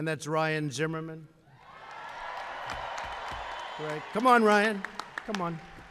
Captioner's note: applause